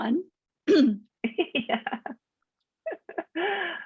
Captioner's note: chuckles